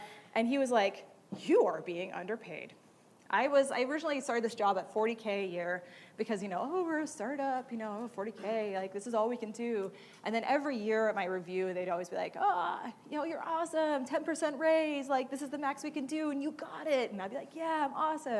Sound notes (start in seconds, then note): none